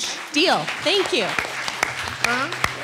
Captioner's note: attendees applauding